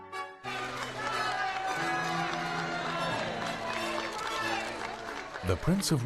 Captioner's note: crowd cheering; voiceover